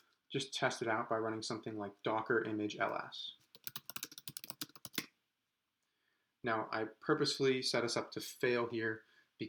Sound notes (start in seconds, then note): 3.5 typing